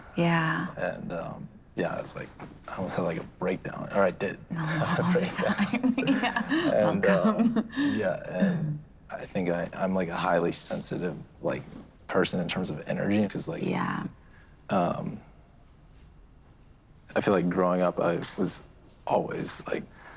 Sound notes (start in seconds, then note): 4.6 chuckles